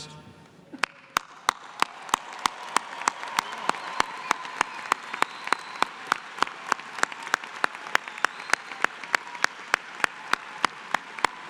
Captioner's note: applause